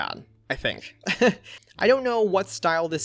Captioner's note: laughs